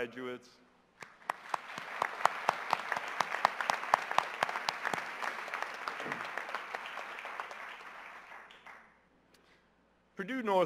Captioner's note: applause